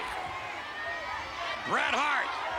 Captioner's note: spectators cheering